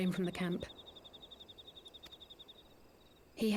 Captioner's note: birds chirping